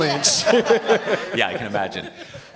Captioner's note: participants laughing